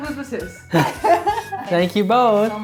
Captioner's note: laughing